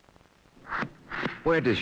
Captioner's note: knife scraping